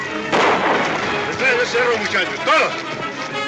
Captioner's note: in spanish